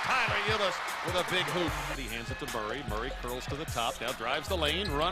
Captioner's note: cheering